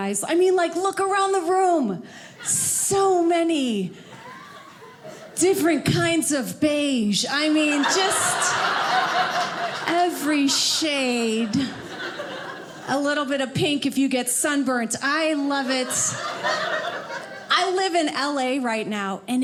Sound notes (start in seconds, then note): 7.5 audience laughing; 15.4 audience laughing